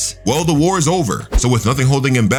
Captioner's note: air whooshing